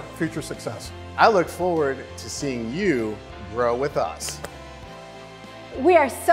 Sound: arm slaps

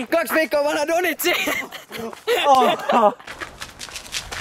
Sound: laugh again

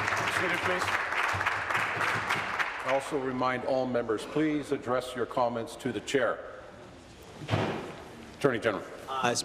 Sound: applause

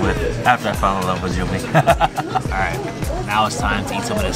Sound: laughs

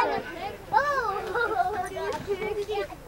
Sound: laughing

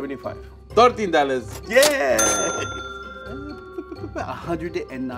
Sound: laughs

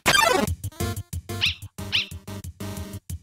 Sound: bark Bark

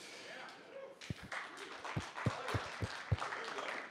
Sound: applause

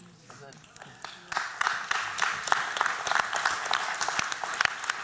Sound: applause

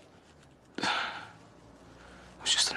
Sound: Aaron sighs

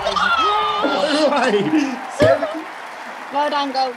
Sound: cheering

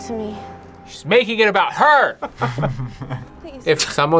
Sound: both laugh

